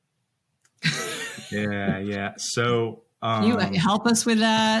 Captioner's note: laughs